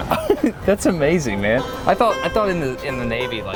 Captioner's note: laughs